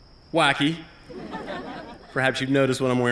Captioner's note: laughter